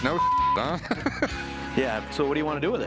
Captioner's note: laughs